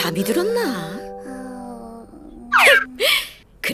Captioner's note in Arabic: صوت الشخير